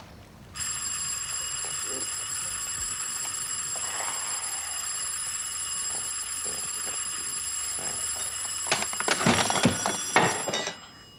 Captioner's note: doorbell rings